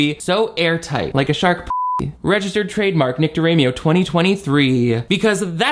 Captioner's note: beep